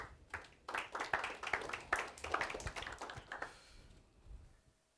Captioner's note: applause